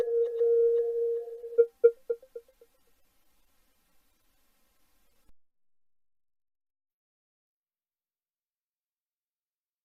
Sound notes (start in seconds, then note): 6.1 silence